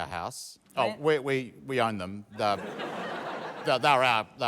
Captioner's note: laughter